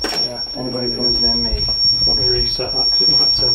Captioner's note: loud beeping